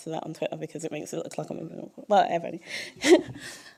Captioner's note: chuckle